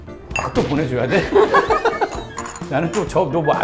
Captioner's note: haha